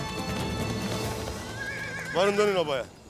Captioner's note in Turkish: At kişneme sesi